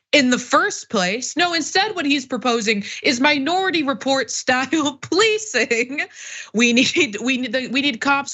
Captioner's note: laugh